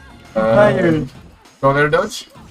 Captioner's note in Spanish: sonido unísono de confusión